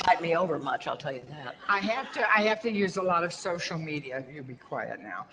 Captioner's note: audience laughter